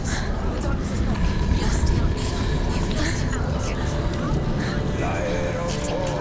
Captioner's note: indistinct chatter